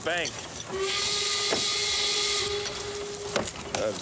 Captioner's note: air horn blowing